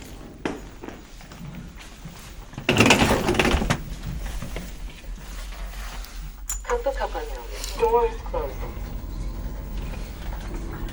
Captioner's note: elevator: door is opening